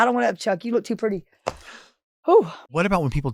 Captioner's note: hands tapping